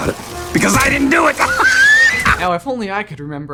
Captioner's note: laughs